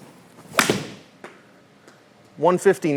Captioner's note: club thwacks